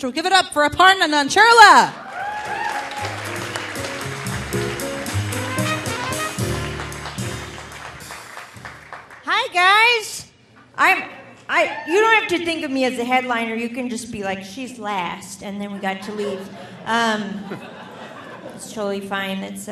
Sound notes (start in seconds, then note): 1.9 audience applauding; 2.3 delightful music